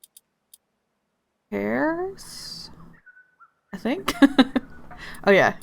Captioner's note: laughs